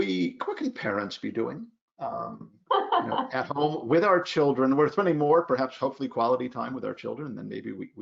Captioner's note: laughs